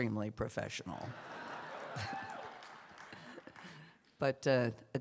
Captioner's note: laughter, cheers